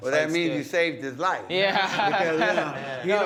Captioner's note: laughing